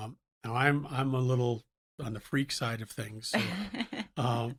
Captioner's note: laughs